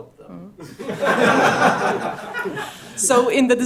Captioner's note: laughter